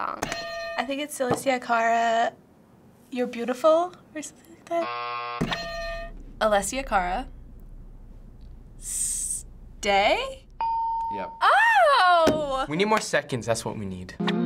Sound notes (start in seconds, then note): 0.3 hitting bell; 4.8 buzzer; 5.5 hitting bell; 10.6 ding; 14.2 humming